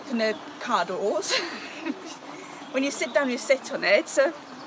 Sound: laughs

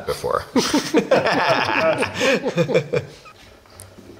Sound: laughing

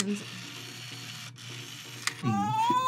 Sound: Furby whirrs; Furby purrs

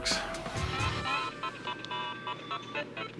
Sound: video game sounds

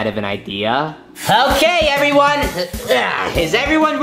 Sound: grunts

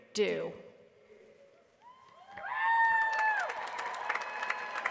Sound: applause

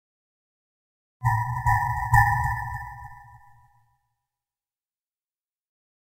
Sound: horror noise

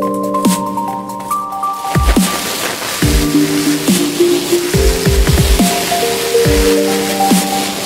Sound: water spraying

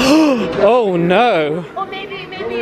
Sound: gasps

